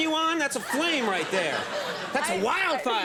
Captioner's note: laughter